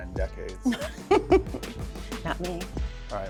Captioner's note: laughs